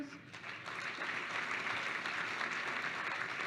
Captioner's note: applause